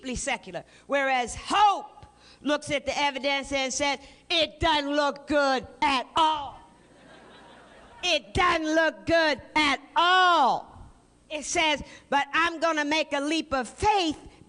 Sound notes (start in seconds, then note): 6.8 laughter